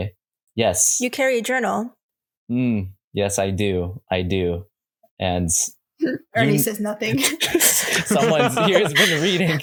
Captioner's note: laughter